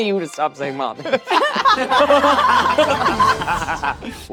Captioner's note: all laughing